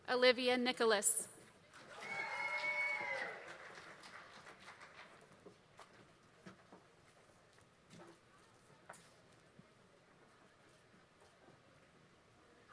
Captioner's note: applause